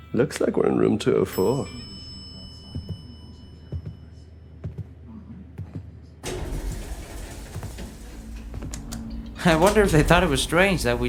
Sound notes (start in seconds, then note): 1.3 elevator bell; 2.9 footsteps; 6.2 elevator door opens